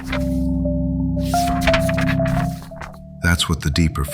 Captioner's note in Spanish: Pasando páginas